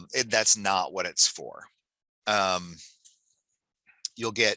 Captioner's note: chuckles